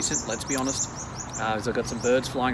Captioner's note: birds tweeting